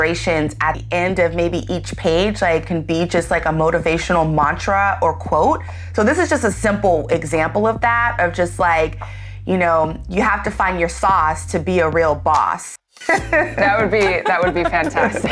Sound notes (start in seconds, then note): 13.0 all laughing